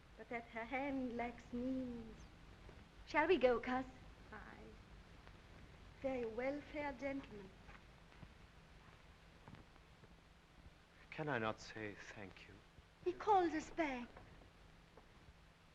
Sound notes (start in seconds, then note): none